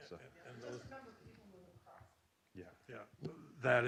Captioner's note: softly talks off mic